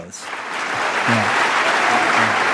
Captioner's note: applause